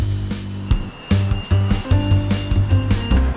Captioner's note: beeping